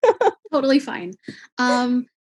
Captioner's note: laughs